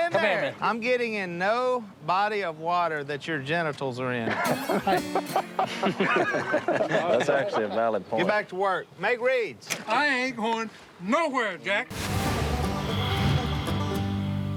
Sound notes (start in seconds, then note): 4.3 laughing; 12.0 light music playing